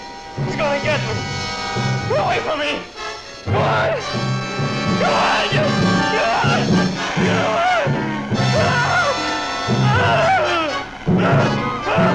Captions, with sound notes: He's gonna get me. Get away from me! Get away! Get away, you! Get away! Get away! (Byron screaming)